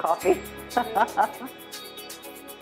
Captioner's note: laughing